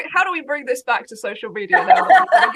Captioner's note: laughs